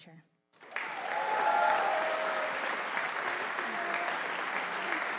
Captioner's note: audience applauding